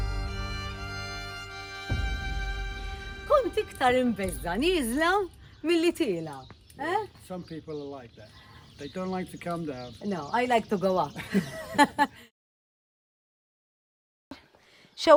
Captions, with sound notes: I was more afraid to go down than to go up! Some people are like that, they don't like to come down. No, I like to go up! [both chuckle]